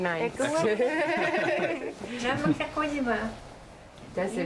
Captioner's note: laughing